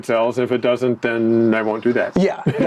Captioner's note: chuckles